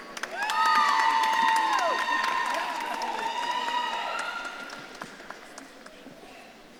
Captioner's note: audience claps and cheers